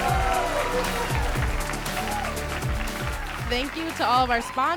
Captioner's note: crowd applauds